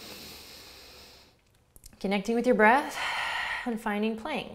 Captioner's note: inhales deeply; exhales